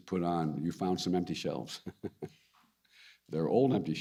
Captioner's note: laughs